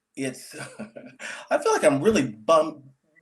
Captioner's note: laughs